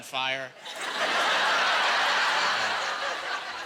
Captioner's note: laughing